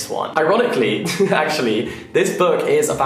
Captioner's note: laughing